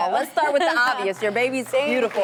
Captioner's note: laughter